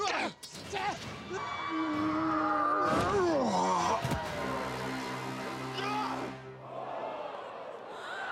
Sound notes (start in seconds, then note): 3.0 grunting